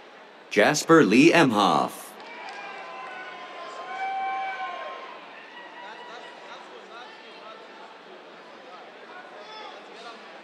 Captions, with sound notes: Jasper Lee Emhoff. [CHEERS, APPLAUSE]